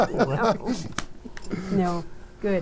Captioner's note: group laughing